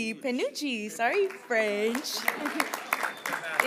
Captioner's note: applause